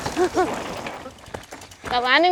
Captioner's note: nervously laughs